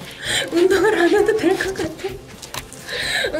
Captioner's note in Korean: 웃음